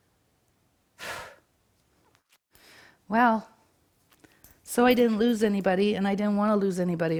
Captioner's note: sighs